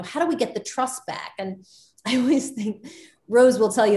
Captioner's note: Soledad laughs